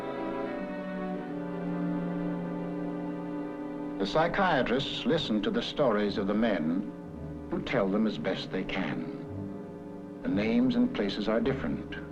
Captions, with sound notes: - [Voiceover] The psychiatrists listen to the stories of the men, who tell them as best they can. The names and places are different,